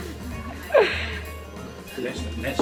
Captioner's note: laughs